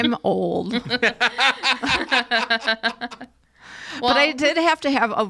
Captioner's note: all laugh